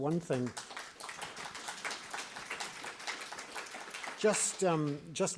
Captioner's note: audience clapping